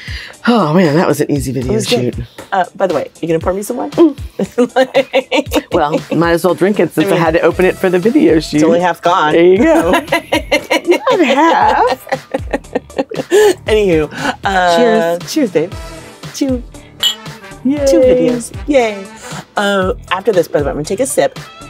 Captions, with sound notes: - Oh man, that was an easy to video to shoot. - For sure. Oh, by the way, you're going to pour me some wine? - Uh. (laughing) - Well, might as well drink it since you had it, opened it for the video shoot. - It's only half gone. - There you go. (laughing) - Only half. - Anyhoo. - Cheers. - Cheers, babe, to new videos. Yeah, after this, I'm gonna take a sip.